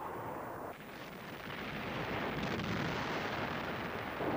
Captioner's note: ship explodes